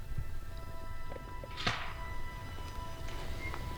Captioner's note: caller raking